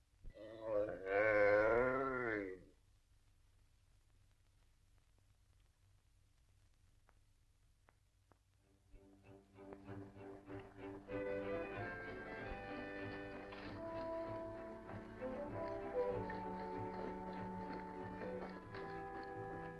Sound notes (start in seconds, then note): 0.3 yawning; 9.5 perky music